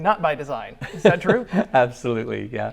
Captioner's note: laughs